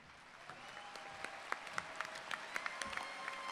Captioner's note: applause